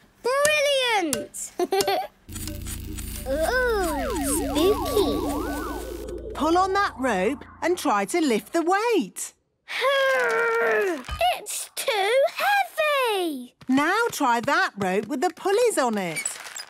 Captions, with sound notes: - Brilliant! Hee, hee! - (pulsing) - Oooh! Spooky! - Pull on that rope and try to lift the weight. - Urrrg! It's too heavy! - Now try that rope with the pulleys on it!